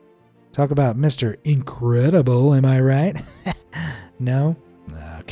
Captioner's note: chuckles